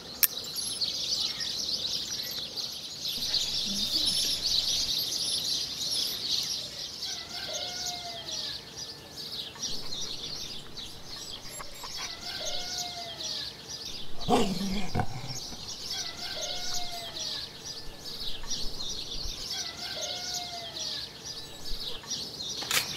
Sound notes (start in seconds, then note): 0.2 birds chirping; 0.2 lighter clinking; 7.0 distant rooster crowing; 7.3 birds chirping; 13.9 dog growling; 14.3 birds chirping; 15.8 rooster crowing; 16.0 birds chirping